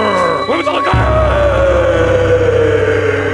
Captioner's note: screaming